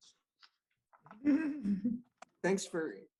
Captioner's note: laughing